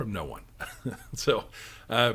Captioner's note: chuckles